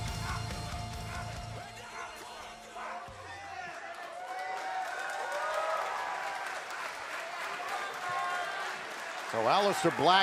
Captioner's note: crowd cheering